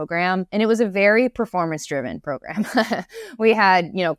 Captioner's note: laughs